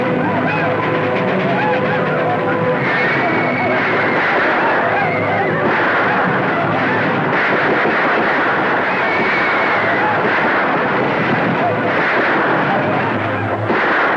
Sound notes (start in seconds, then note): 0.0 Apache tribe yelling; 0.0 tense orchestral music; 3.2 guns popping; 3.2 horses whinnying